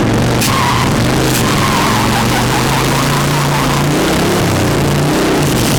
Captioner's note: engine revving up